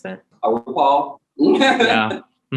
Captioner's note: laughs